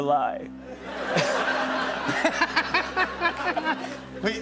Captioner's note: laughter